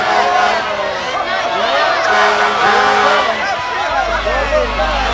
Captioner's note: fire engine horn honking